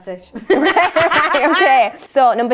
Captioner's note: they laugh